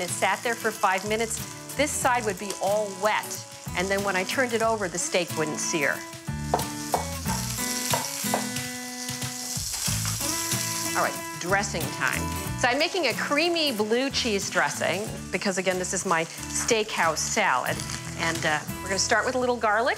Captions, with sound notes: for five minutes, this side would be all wet, and then when I turned it over, the steak wouldn't sear. (chopping onion) (sizzling foods) Alright, dressing time. So, I'm making a creamy blue cheese dressing, because again, this is my steakhouse salad. And we're gonna start with a little garlic,